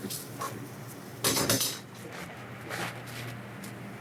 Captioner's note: ambient kitchen noise